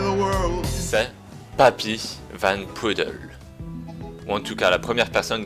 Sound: man speaking French

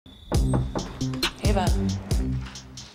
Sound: knocking at door

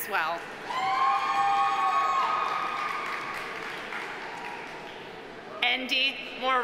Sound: audience applauding; audience cheering

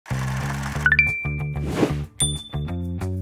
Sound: phone dinging; upbeat music

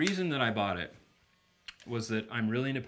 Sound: clicking

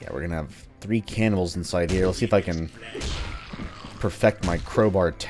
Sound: whacking intensifies

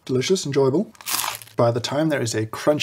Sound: nice toast crunch

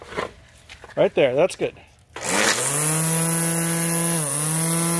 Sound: starts string trimmer

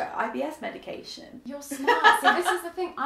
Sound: laughs

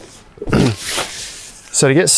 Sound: fabric swooshing

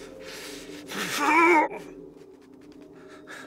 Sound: groans

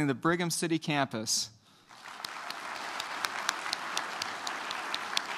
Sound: applause

